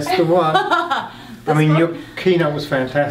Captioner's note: laughing